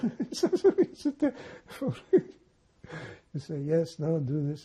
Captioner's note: laughing